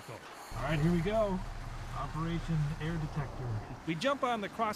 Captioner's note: voiceover